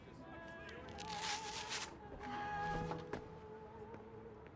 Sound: velcro rips open

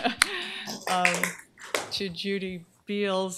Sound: applause

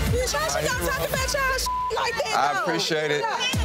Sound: beep

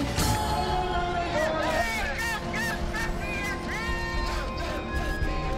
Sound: protesters yell angrily

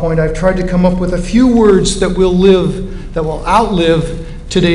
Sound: none

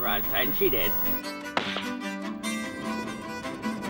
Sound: gunshot

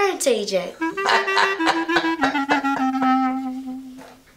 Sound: George laughs aloud

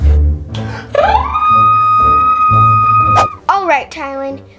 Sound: scream

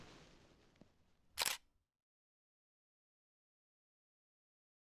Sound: camera snapping

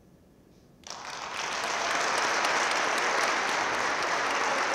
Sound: audience claps

